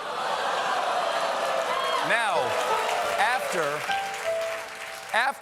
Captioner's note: audience reacts; piano riff; applause